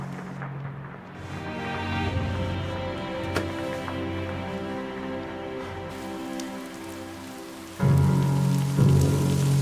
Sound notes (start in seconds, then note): 5.9 sighs; 7.1 ominous music